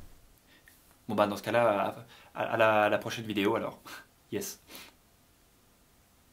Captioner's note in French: bégaye